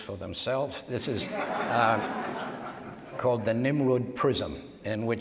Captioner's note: audience laughs